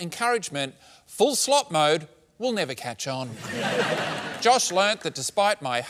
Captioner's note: laughter